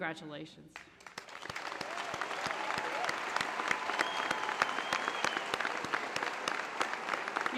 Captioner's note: applause